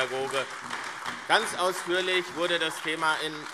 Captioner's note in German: Beifall AfD